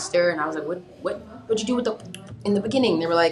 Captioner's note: pops lips